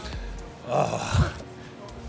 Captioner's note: groans